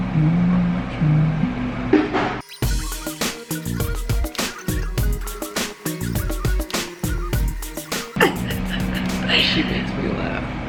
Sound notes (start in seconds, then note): 2.0 funky music; 7.8 laughs